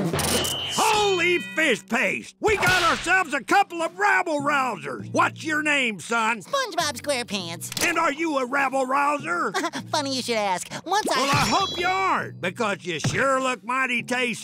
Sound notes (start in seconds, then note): 9.4 laughing